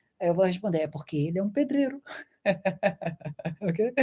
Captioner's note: laughter